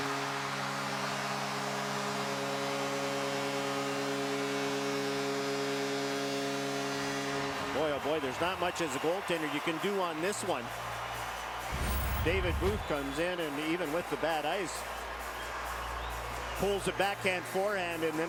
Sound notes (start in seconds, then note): 7.0 cheers, applause